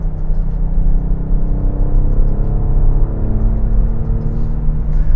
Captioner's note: engine revving